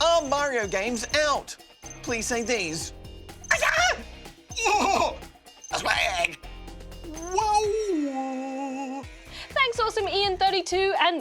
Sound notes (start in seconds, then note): 4.5 makes funny noises